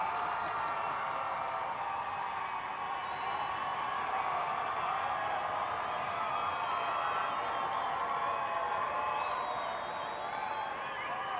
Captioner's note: cheers and applause